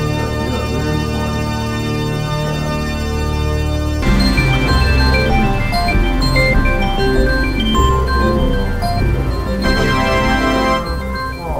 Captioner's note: Pop Ups OS statup sound